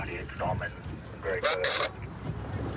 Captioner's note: radio communication